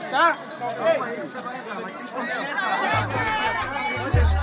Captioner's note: indistinct chatter